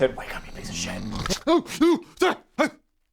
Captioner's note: snore; snort; whispers